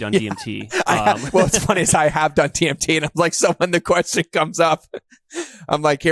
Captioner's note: laughs